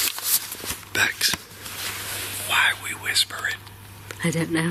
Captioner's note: whispering